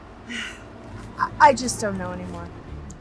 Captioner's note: Ramona sighs